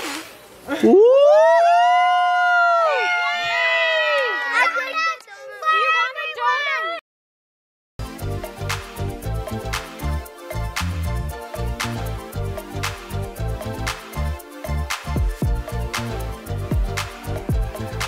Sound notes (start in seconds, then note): 0.8 everyone cheers; 8.5 upbeat music